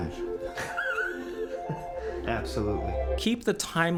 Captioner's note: laughs